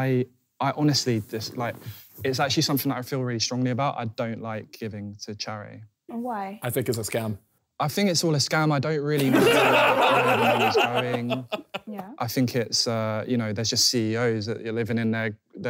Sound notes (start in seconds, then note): 9.2 laughing